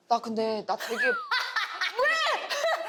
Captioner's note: cracking up